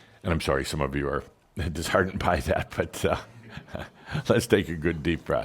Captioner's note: Adamus chuckles